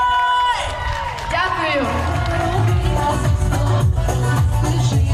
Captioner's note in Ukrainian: оплески